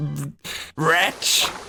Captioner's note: gasp